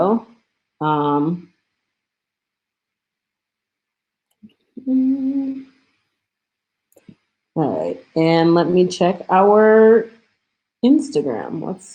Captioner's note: hums